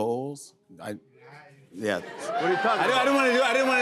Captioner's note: audience murmurs